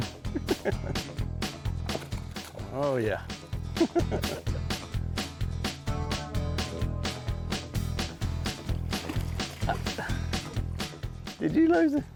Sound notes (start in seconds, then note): 0.1 laughing; 0.3 upbeat country music; 3.7 laughing; 3.9 upbeat country music; 8.2 water splashing; 9.2 upbeat country music